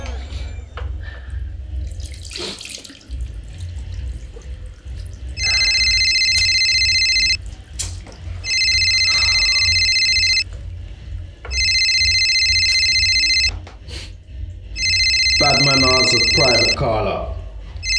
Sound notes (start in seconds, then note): 5.3 phone ringing